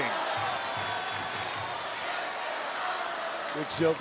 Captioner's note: crowd chants "This is awesome"